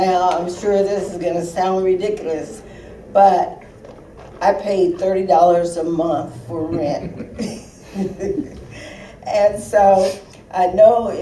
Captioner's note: laughter